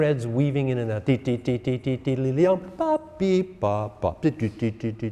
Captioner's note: instructor vocalizing